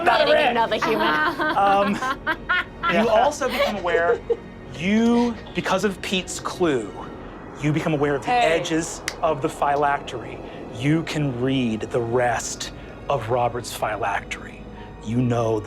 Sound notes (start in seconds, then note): 0.8 laughs